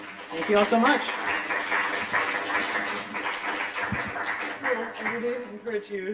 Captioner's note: applause